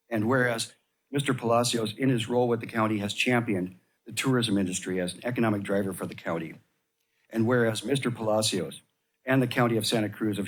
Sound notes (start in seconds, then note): none